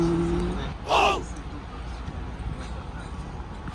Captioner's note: laughs